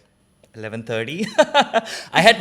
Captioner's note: laughs